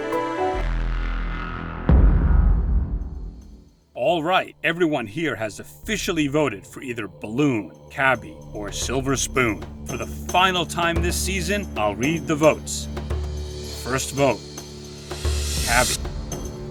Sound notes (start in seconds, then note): 0.0 music turns serious; 1.0 boom